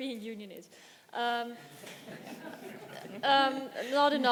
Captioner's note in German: Gelächter im Publikum